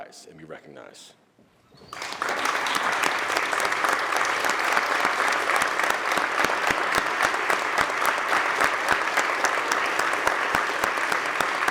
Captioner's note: applause